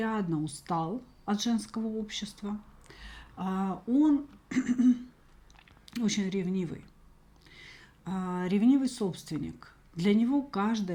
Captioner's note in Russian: откашливается